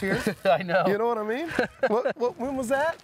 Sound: chuckles

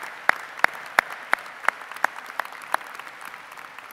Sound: applause

